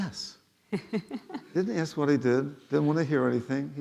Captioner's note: laughing